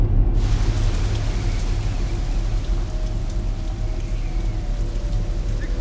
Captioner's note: rain pattering; wind whistling